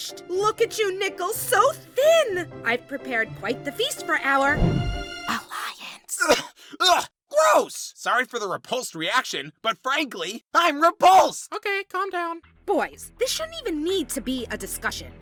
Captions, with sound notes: Look at you, Nickel, so thin! I've prepared quite the feast for our... ... alliance... [COUGHS] EUGH! GROSS! Sorry for the repulsed reaction... but frankly, I'M REPULSED! Okay, calm down. Boys, this shouldn't even need to be a discussion.